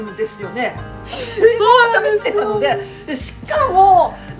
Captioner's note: haha